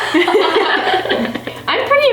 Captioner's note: both laughing